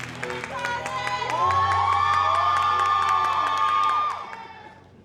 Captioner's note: audience cheering